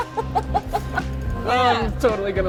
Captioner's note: laughter